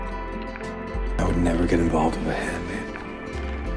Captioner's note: voiceover